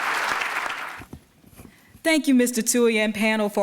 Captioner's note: applause